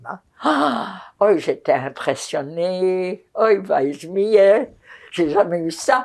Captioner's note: yiddish